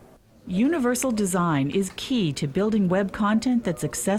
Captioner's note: voiceover